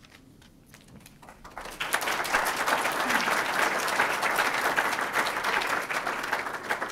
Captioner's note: group applauds